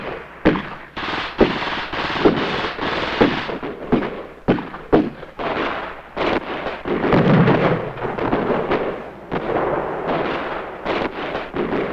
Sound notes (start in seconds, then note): 1.5 explosion booming; 6.2 guns blasting; 6.8 explosions booming